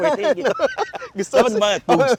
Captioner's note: continuous laughing